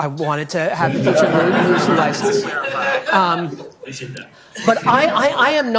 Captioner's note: audience laughing